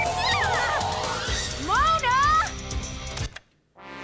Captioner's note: loud feedback and music